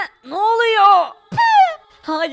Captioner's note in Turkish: Tükürme sesi